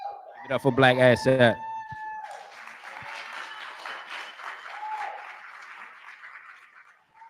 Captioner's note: cheering